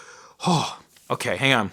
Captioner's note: shuddering